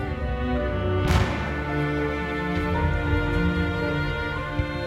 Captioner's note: gun shot